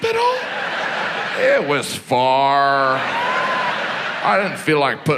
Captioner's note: audience laughs